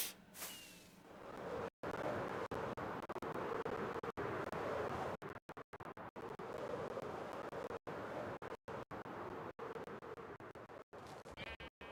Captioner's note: woosh noises